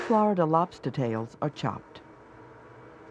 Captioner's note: voiceover